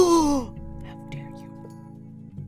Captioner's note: whisper